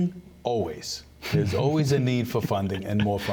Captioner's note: laughter